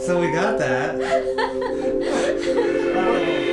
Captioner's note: laughs